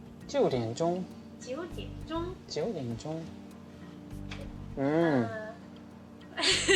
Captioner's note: speaking Chinese; laughing